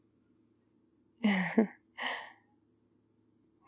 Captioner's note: laughs